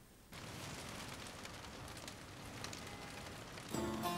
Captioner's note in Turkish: Yağmur sesi; Duygusal müzik